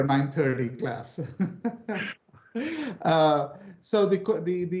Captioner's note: laughing